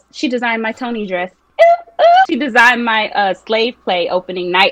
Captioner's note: high pitched cheer